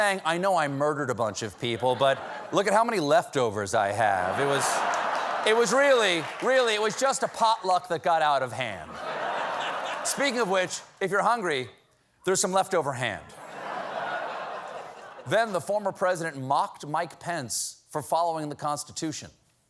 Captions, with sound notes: "I KNOW I MURDERED A BUNCH OF PEOPLE, BUT LOOK AT HOW MANY LEFTOVERS I HAVE. ( LAUGHTER ) REALLY, IT'S JUST A POTLUCK THAT GOT OUT OF HAND. ( LAUGHTER ) SPEAKING OF WHICH, IF YOU'RE HUNGRY, THERE'S SOME LEFTOVER HAND." WH( LAUGHTER ) THEN THE FORMER PRESIDENT MOCKED